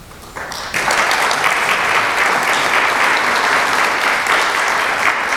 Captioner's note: applause